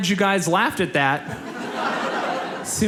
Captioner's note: audience laughs